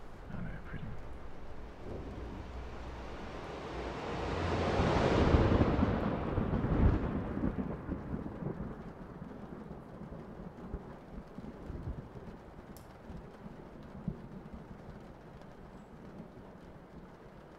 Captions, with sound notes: I know, Pretty. (Music Builds) (Thunder Roars)